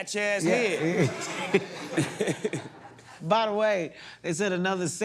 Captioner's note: both chuckle